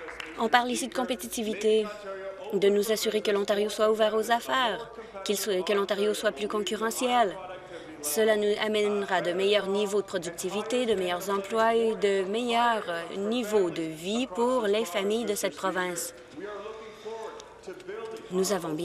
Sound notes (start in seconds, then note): 0.0 applause